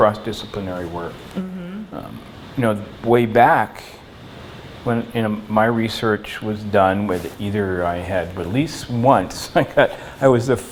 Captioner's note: laughs